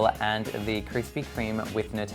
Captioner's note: none